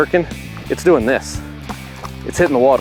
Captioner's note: water splashing